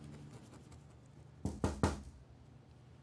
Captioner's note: there was a knock on the door